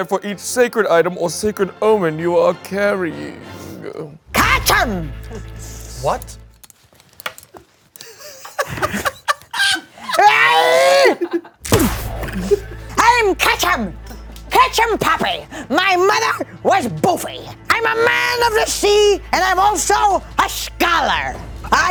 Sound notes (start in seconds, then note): 7.9 laughs; 9.5 Katchem screams